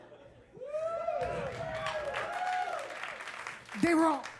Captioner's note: audience applauding and cheering